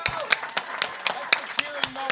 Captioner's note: audience applauds